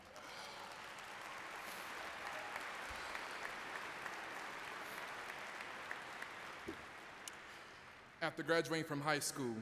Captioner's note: applause